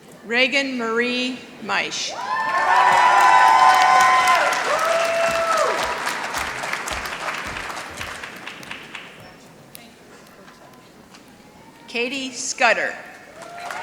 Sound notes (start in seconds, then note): 2.2 applause